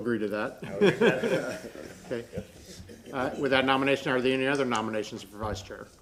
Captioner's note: laughter